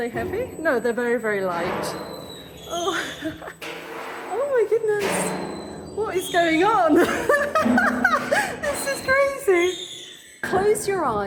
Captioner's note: laughing